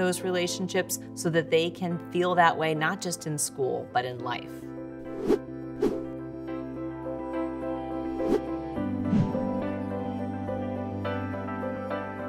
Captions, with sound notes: those relationships so that they can feel that way not just in school, but in life. (logos whooshing) (gentle music)